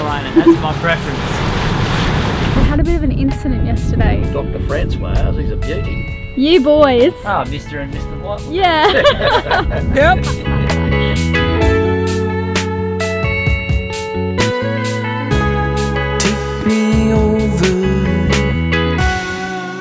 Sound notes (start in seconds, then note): 8.8 laughing; 11.7 upbeat instrumental music